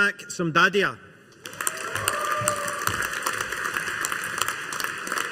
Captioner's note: audience applauding